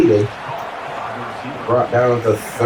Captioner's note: crowd Noises